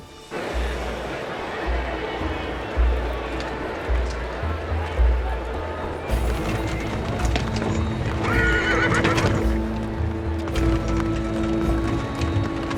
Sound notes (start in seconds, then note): 0.2 indistinct chatter; 8.2 horse neighs